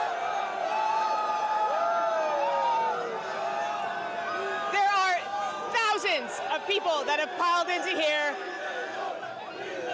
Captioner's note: cheers and applause